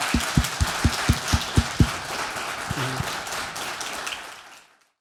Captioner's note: applause